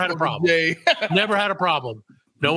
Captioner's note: laughing